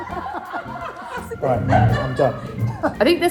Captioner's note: all laugh; chair scrapes